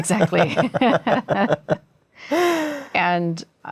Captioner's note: laughter